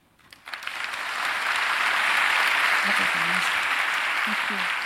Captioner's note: applause